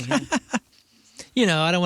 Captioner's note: laughing